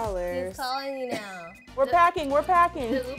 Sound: cell phone ringing

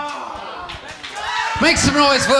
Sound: audience cheering

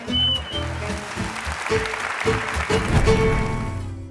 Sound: applause

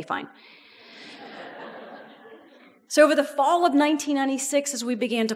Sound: audience laughs

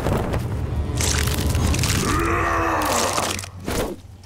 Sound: grunting

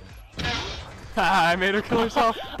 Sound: laughter

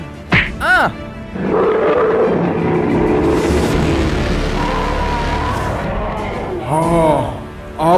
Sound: Kyuubi is roaring

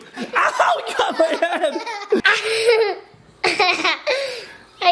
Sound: laughter

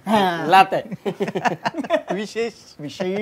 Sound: laughter

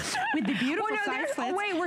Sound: laughter

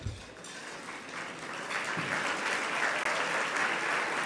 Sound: loud clapping

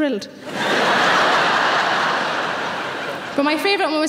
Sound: audience laughing

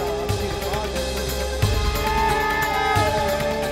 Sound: conch blowing

